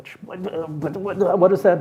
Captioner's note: steward imitating stammering